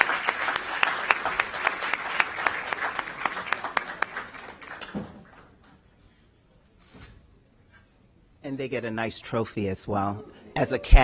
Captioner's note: applause